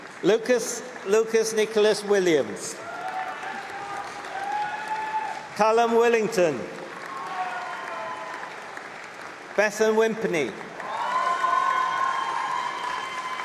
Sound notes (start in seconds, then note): 4.3 applause; 6.8 cheering